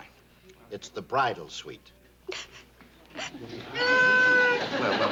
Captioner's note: sobs